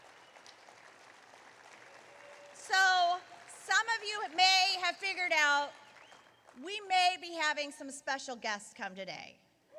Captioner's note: applause